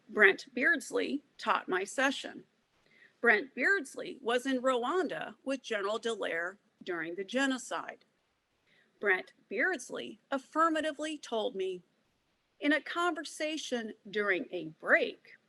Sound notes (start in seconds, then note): none